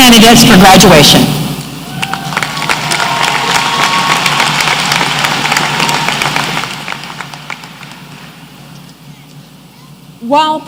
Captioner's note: applause